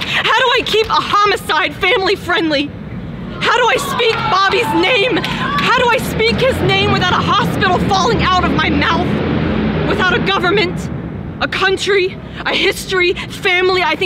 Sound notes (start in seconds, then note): 3.3 cheering in the background